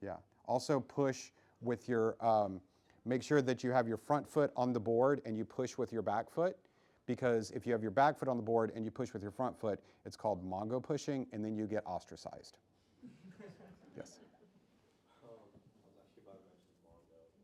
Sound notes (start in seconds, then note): 13.0 laughing